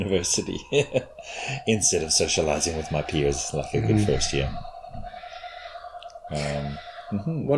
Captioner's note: chuckles